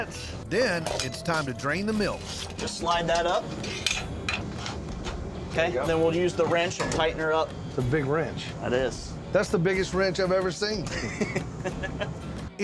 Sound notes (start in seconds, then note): 3.2 clanging sound; 10.8 chuckles